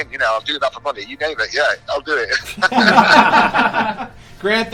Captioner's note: laughs